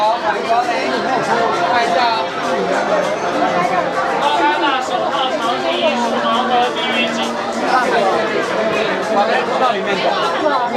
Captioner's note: speaking in foreign language